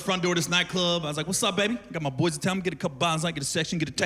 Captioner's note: none